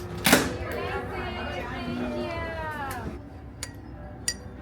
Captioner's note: door clicking